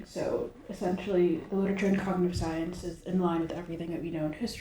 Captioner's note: none